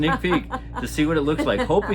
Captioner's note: laughter